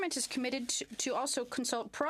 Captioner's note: speaking French